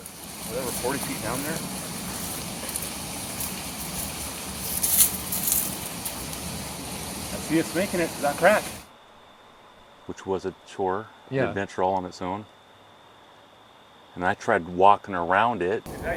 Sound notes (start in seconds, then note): 4.6 branches breaking